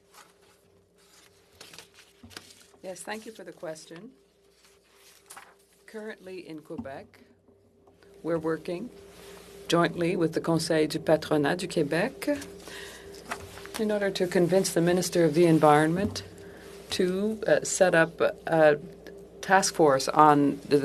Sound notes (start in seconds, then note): 7.2 speaking French